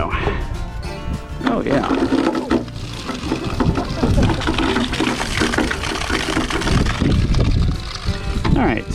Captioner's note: sound of water flowing in gutter